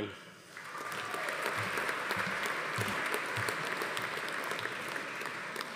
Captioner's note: audience applauding; attendee cheering